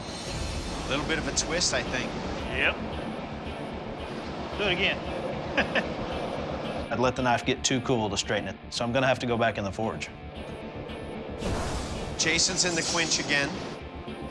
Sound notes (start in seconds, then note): 5.2 chuckles